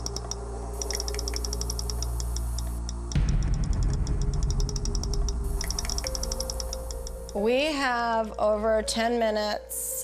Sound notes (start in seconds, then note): 0.0 clicking varies in speed; 0.0 high-pitched rapid clicking sound